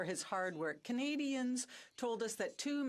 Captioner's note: speaking French